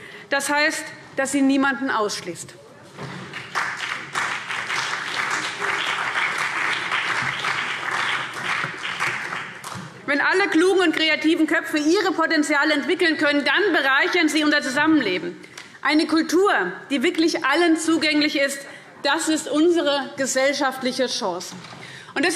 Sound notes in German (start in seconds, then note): 3.2 Beifall CDU und BÜNDNIS 90/DIE GRÜNEN